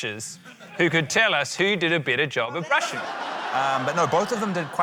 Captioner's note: laughter